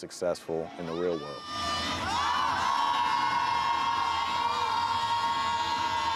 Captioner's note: cheering